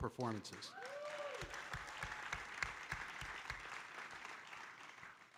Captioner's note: audience applauding